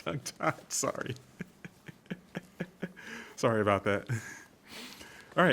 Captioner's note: chuckles